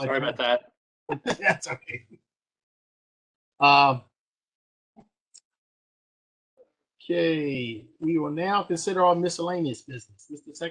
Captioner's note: laughter